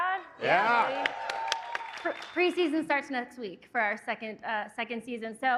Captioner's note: applause